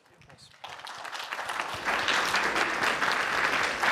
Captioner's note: applause